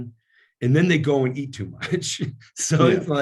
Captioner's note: laughs